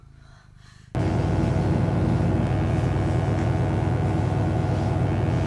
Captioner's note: electric buzzing